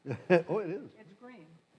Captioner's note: laughs